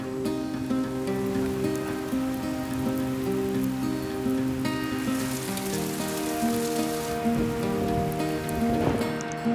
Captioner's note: rain falling